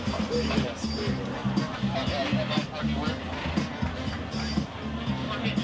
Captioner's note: lively music; people chattering